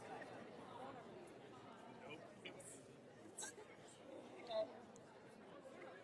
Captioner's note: audience chattering